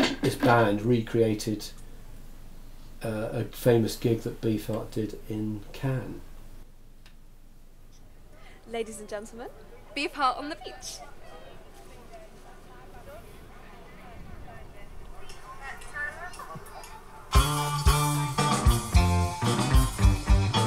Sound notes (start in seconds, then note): 11.9 people chattering; 17.3 upbeat, rock music